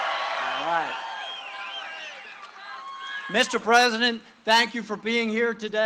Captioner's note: cheering and applause; cheering and applause